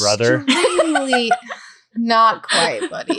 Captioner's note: laughing